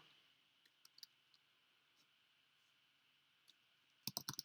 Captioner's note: keyboard clicking